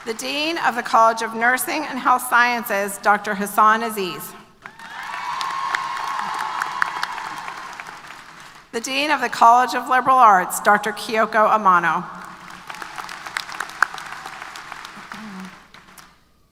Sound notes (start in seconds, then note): 4.6 applause & Cheers; 12.1 applause